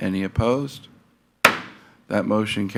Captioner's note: gavel thuds